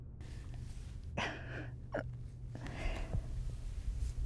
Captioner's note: sobbing